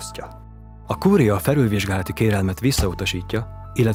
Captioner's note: sound of stamping